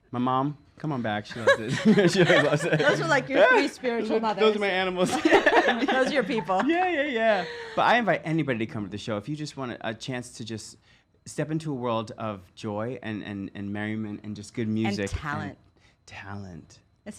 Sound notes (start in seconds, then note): 1.4 loud laughs